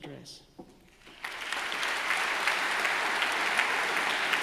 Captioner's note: audience applauding